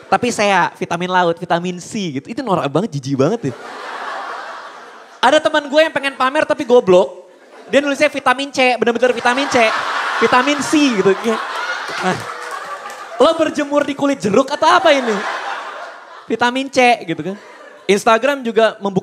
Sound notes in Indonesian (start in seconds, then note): 3.4 Hahahahaha